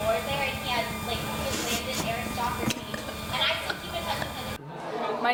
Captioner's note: background Conversation